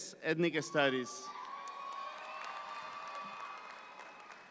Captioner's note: audience applauds